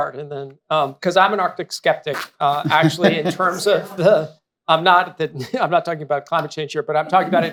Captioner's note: laughter; laughter